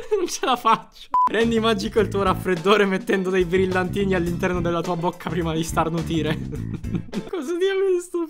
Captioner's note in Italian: risata